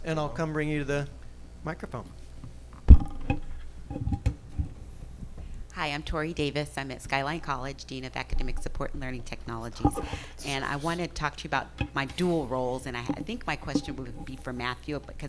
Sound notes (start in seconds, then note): 2.8 microphone clattering